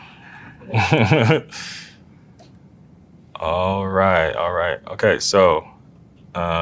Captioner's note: laugh